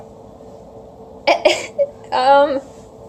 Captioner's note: laughs